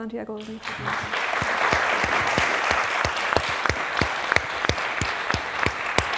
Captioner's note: applause